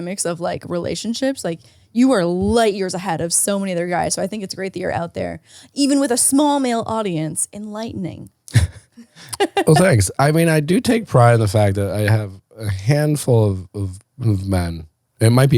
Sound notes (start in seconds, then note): 8.5 laughs; 8.9 laughing